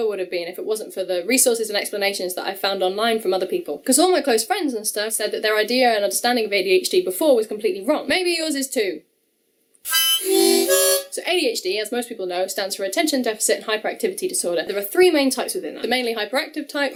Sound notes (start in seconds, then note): 9.7 hOnk; 9.9 h0nk